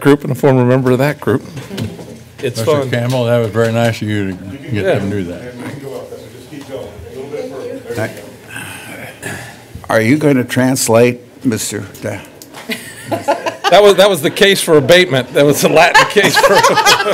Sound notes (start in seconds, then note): 12.6 laughter; 15.7 laughter